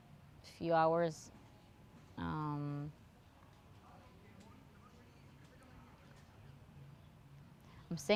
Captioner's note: pauses 6 seconds